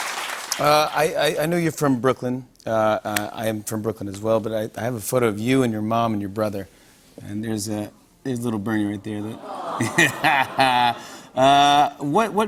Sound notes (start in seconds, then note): 9.3 audience awws; 11.0 laughs